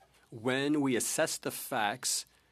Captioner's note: speaking French